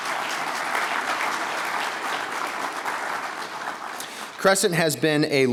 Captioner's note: audience applauding